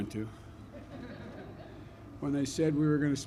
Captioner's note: laughter